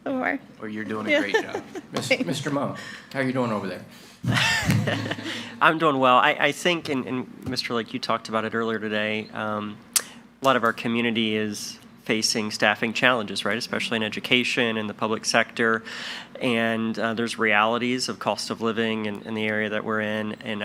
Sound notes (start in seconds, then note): 1.1 laughing; 4.8 guffaws